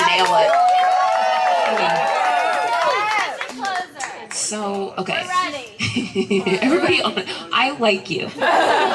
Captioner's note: applause